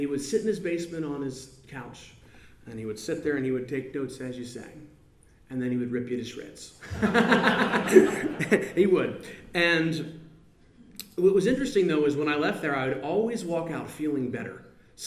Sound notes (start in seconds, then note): 6.8 laughs